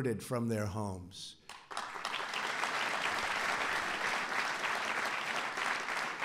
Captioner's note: applause